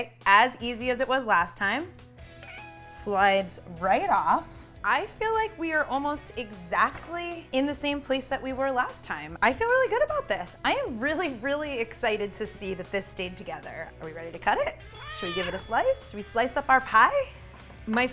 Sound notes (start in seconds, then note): none